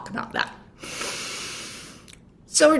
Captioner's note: breathes deeply